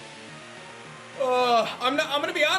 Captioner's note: groans